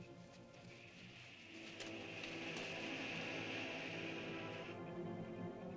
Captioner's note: ominous music; lizard makes soft hissing sound; ominous music